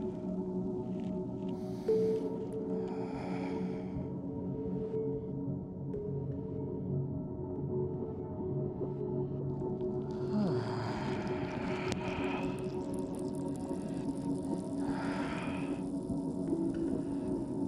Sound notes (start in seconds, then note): 2.7 gently breathes whilst he explores his inhalations and exhalations